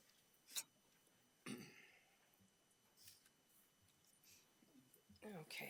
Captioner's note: throat clearing